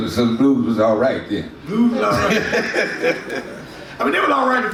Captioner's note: laughs